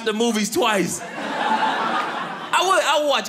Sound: audience laughing

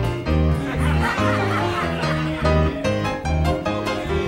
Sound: people laughing

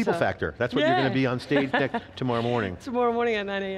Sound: laughs

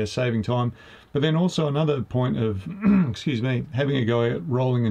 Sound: clears throat

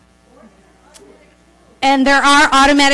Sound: voiceover

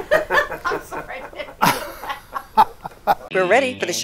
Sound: laughter

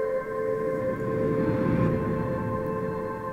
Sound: whoosh

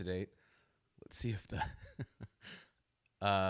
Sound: laughs

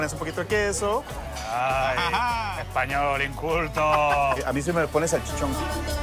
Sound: laughs

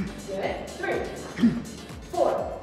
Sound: Tony grunting; Tony grunts

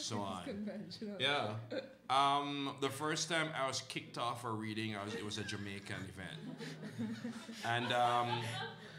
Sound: laughter

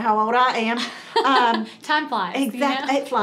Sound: laughter

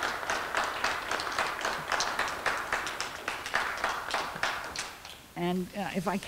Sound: clapping

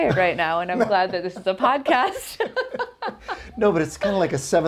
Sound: chuckling; both laughing

